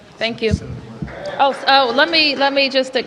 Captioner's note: applause